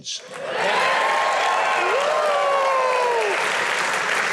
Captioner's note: audience cheers